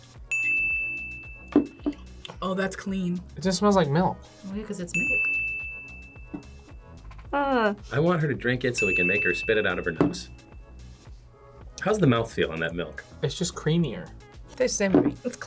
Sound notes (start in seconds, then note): 0.3 ding; 4.9 ding